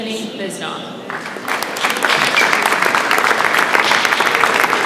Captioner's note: audience applauds